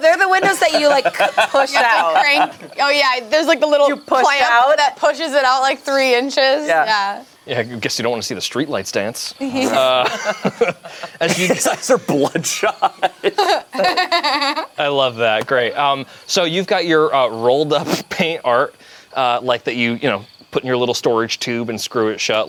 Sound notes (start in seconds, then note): 9.5 group laughs; 12.5 laughs